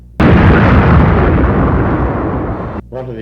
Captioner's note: kaboom!